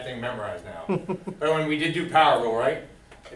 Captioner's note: laughs